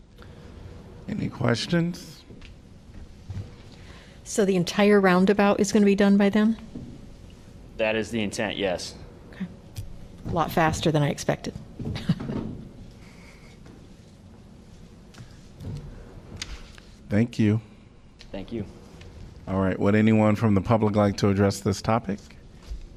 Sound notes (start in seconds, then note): 11.9 laughter